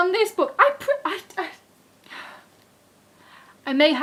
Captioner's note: sigh